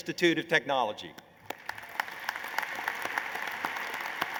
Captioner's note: applause